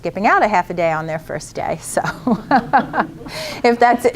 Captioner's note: laughter